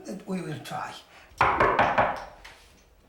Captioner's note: knocking on door